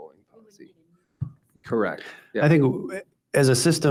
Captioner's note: speaks faintly